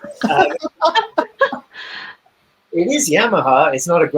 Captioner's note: group laughing